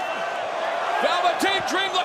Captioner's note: crowd cheering